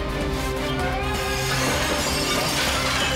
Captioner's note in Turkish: Bağırıyor